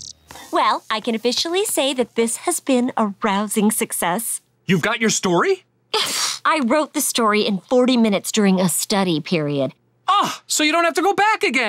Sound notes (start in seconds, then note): 5.8 scoffs